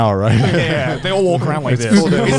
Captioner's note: all laughing